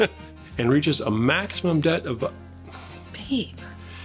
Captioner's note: laughs; sighs